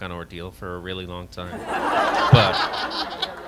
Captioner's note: laughter